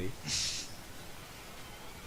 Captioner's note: snickering